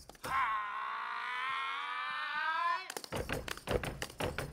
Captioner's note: speaking language other than English; grunting; drums beating